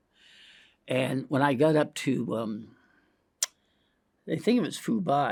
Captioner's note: tongue clicks